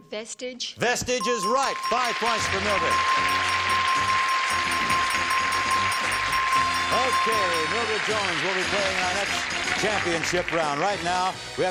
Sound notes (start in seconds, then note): 3.9 chiming, applause